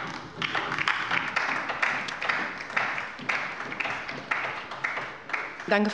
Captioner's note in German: Beifall bei der LINKEN